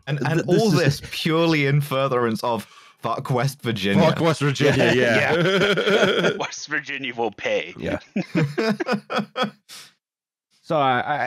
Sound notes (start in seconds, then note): 4.5 laughter; 8.1 laughter